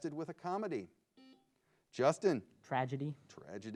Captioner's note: buzzer beeps